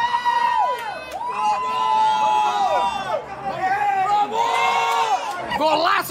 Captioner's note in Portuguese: pessoas comemorando